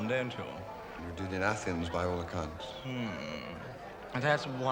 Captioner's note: none